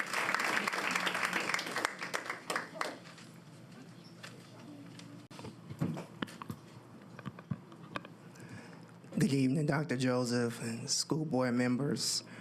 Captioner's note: applause